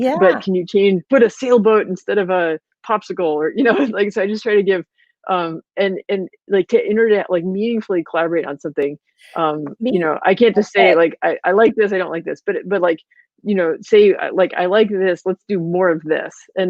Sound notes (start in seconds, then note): 6.3 voice muffled